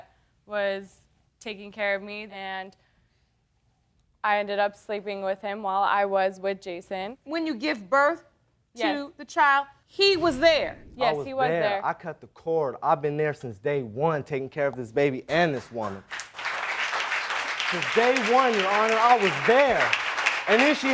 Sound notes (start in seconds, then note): 15.4 audience applauding